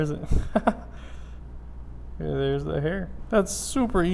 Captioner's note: laughs